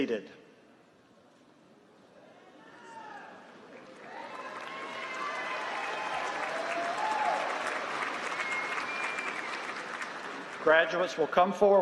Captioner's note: applause